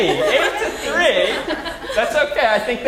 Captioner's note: laugh